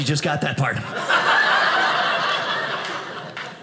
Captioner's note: audience laughing